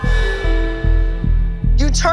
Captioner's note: gasps